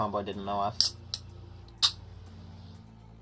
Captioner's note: energy drink can opening